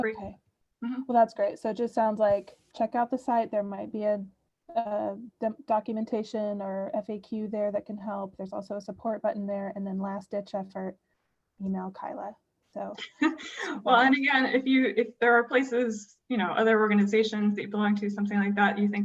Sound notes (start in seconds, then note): 13.0 laughter